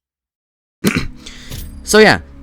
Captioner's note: ahem